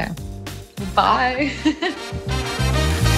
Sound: giggles

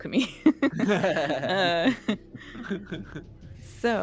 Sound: multiple laughing

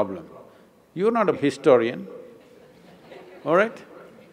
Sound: few laugh

